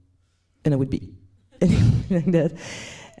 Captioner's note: laughs